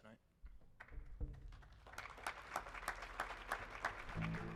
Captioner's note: people applauding